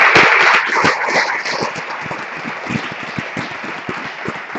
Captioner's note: applause